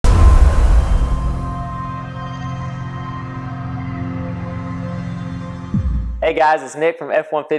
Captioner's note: sound effect